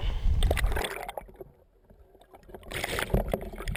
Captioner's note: water gurgling